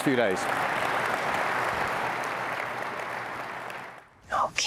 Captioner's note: applause